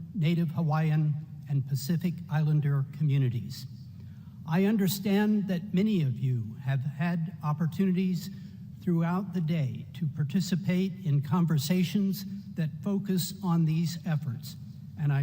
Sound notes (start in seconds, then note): none